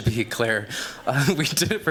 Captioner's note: laughing